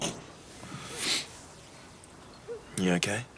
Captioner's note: John sniffs